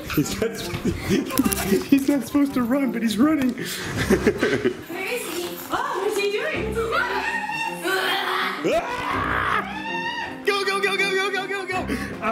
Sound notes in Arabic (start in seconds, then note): 0.0 يضحك; 3.6 يضحك; 7.8 الصراخ